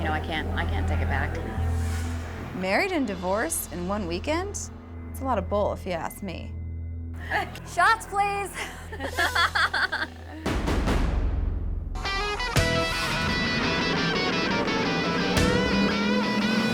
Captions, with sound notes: I can't take it back. - Married and divorced in one weekend? It's a lot of bull if you ask me. - Shots, please. (all laughing) (upbeat music)